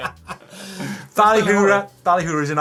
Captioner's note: laughing